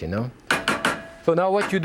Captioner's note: spatula thudding